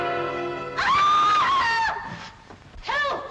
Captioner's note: sinister dramatic music; woman screams